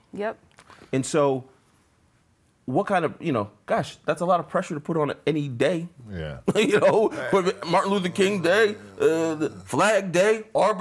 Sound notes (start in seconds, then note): 6.1 laughs